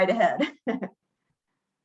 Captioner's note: chuckles